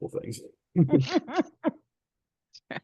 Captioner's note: laughter